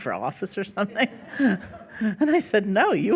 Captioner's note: laughing